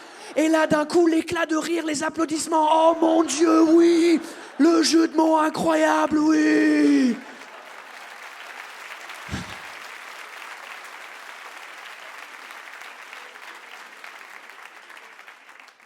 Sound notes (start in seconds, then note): 8.9 audience claps; 9.2 sighs